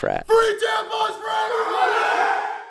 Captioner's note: frat boys yelling